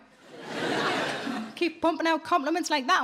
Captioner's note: audience laughing